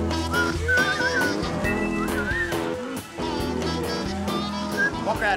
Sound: whistling softly

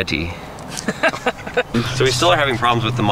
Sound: laughter

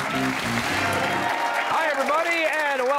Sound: cheers and applause

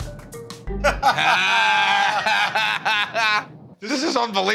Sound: laughter

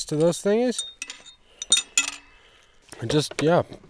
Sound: metal bar tinkling

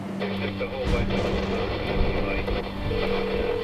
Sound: static

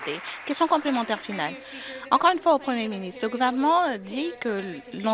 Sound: applause

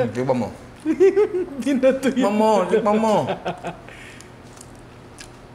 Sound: laughs

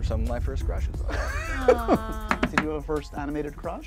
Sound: host laughs

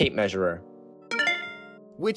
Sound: ding

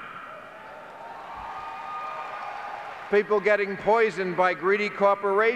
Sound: clapping and cheering

